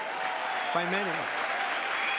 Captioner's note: applause; cheering